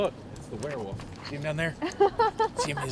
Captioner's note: riendo